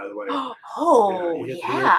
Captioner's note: gasps